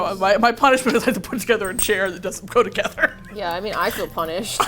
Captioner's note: laughs